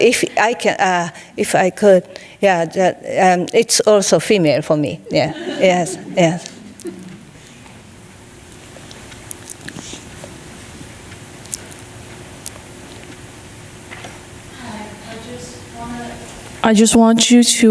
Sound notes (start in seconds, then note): 5.0 audience laughing